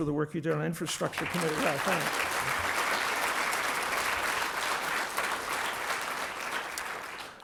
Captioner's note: applause